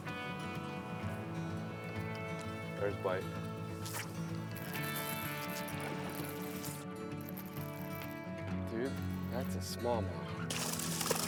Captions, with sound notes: There's a bite. (fishing rod swooshes) (upbeat music) Dude, that's a small mouth.